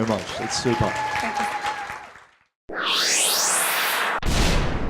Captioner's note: applause